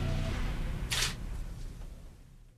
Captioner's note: camera clicks